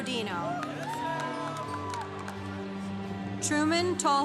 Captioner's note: congregation cheering